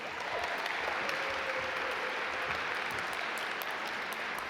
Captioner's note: audience applaud